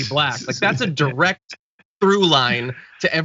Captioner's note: laugh